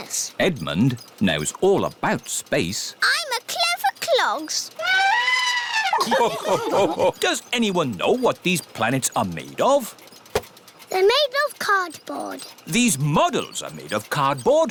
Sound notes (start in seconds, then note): 4.8 trumpets; 4.9 all laugh